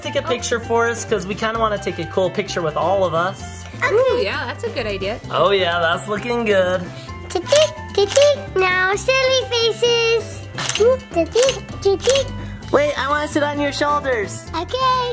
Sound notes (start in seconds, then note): 7.4 camera clicking